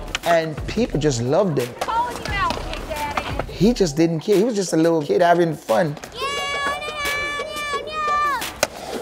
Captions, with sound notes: And people just loved it. He called you out big daddy! He just didn't care, he was just a little kid, having fun. [screaming]